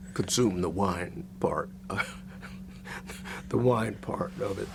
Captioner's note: laughs